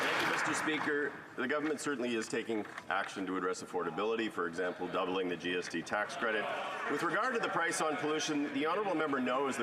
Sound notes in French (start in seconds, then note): 5.7 voix de l'interprète